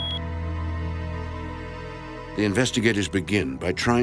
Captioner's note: device beeping